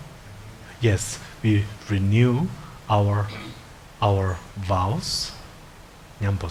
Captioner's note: speaking in foreign language